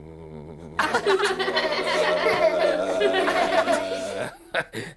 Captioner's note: laughing